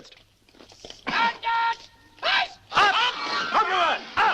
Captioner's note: shouting continues